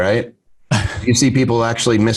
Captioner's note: laughs